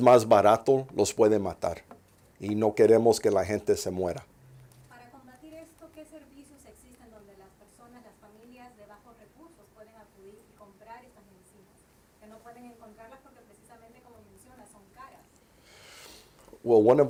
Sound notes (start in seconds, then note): 4.4 reporter in Spanish